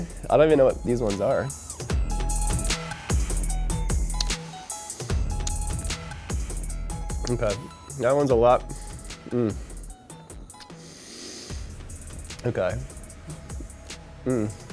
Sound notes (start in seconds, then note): 2.1 techno music; 4.1 lips smacking; 10.6 breath inhaling